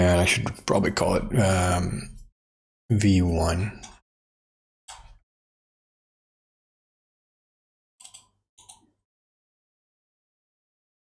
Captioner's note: blank Audio